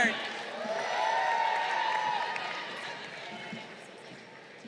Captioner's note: crowd cheering